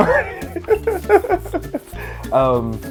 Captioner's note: ^laughter^